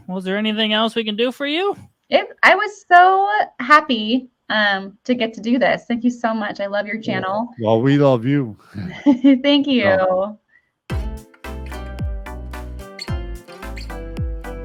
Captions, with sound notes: Well, is there anything else we can do for you? - Yep, I was so happy to get to do this. Thank you so much. I love your channel. - Well, we love you. - (laughs) Thank you. (upbeat music)